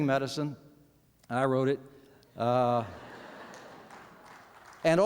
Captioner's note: laughter